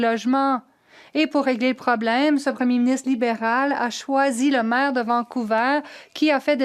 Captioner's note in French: voix de l'interprète